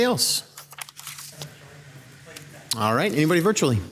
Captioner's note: staff member speaking faintly